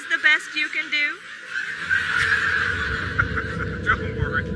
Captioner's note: audience laughter